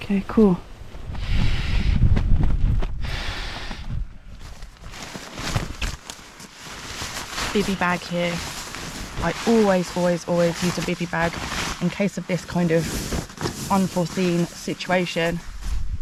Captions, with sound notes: okay cool *wind* *inflating mat* bivi bag here I always always always use a bivi bag in case of this kind of unforeseen situation